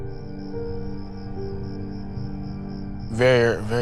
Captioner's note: crickets chirping